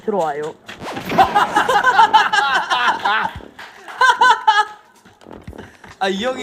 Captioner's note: hahahaha